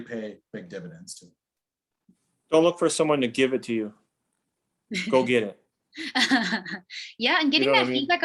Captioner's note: another jolly laugh